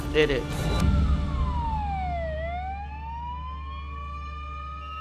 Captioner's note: siren wailing